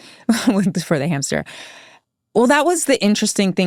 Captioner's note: laughs